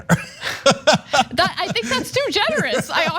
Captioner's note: laugh